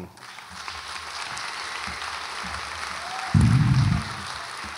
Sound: audience applauds

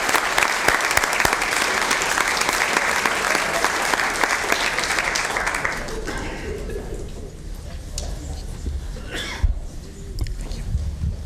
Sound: applause

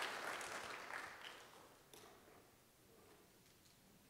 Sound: audience applauds

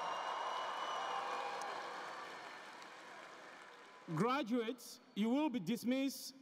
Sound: applause

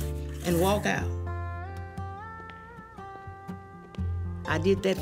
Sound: footsteps retreating; shades sliding

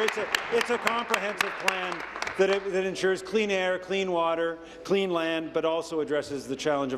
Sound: applause

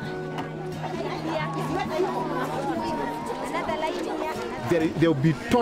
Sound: children talking

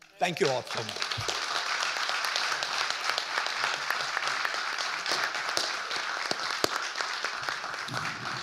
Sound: audience applauding

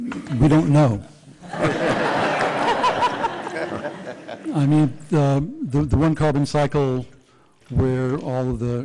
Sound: laughter

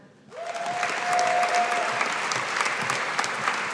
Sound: audience applauding

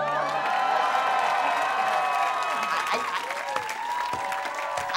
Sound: crowd cheering

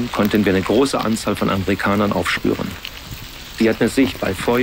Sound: rain, a babble of voices

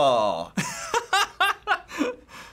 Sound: laughs

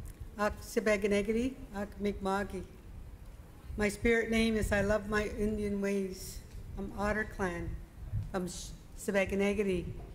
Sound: speaking Indigenous Language

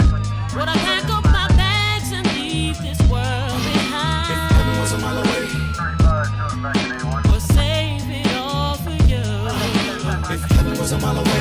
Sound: music and sirens

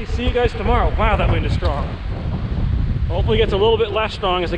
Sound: wind whooshing

